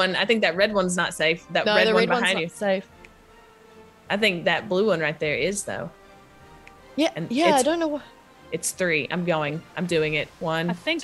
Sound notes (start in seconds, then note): none